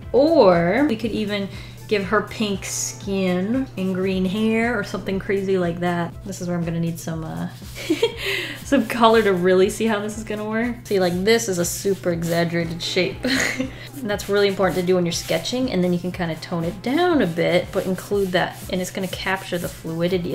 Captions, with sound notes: Or we could even give her pink skin and green hair or something crazy like that. This is where I'm gonna need some uh, [Laughs] Some color to really see how this is gonna work. See like this is a super exaggerated shape. [Laughs] That's really important to do when you're sketching and then you can kind of tone it down a bit but include that and it's gonna capture the fluidity